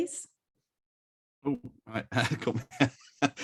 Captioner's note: laughs